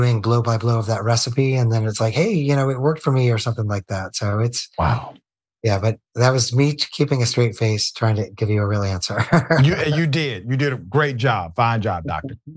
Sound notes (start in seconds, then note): 9.2 laugh